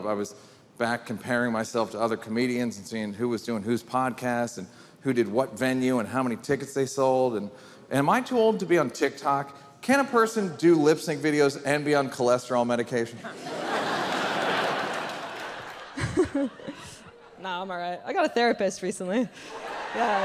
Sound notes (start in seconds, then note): 13.2 audience laughing; 17.3 laughs; 19.5 audience laughing